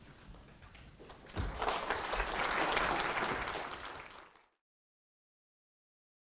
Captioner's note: applause